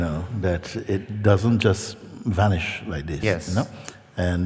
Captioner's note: clic